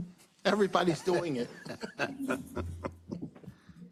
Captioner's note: laughs